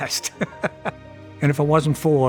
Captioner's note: laughing